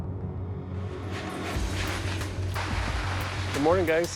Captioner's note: dramatic music; plastic rustling